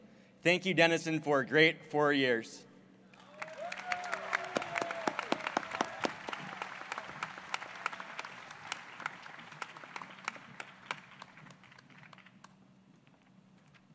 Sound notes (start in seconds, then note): 3.1 applause